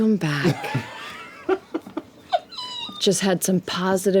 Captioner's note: laughter